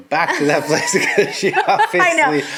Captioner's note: laughing